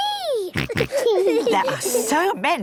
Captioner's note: snorts, giggles